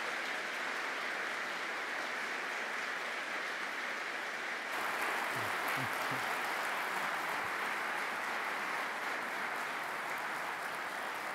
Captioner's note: applause